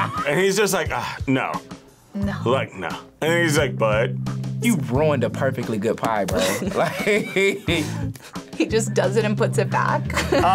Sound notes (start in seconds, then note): 0.0 laughs; 6.3 laughs